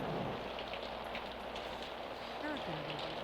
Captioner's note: storm sounds